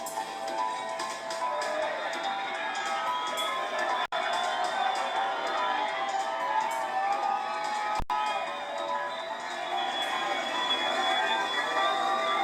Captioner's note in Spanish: Aplausos